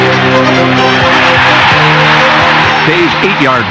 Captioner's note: crowd cheering